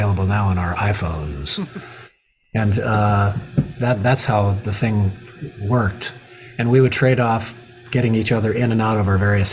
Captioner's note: chuckle